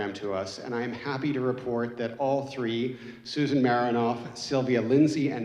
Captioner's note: none